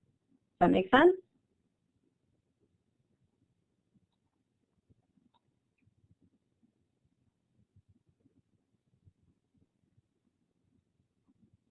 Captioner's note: silence